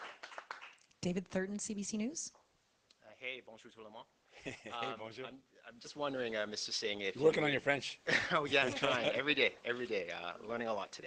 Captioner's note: applause